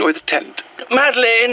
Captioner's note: soft nature atmos through scene - dawn on the moors